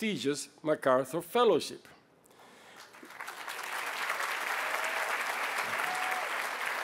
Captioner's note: applause